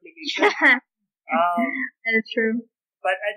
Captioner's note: laughter